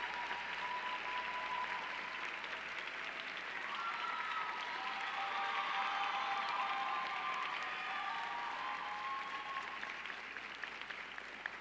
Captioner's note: applause